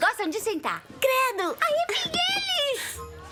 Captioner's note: laughs